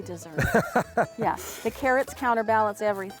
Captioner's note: laughter